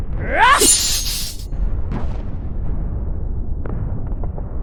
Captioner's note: Xu Xang grunting